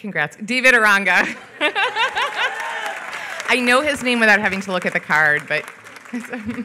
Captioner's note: laughs